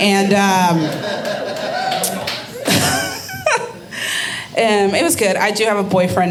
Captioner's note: audience laughing